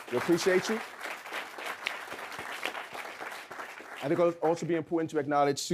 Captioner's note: audience clapping